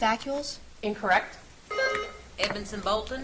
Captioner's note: buzzer beeps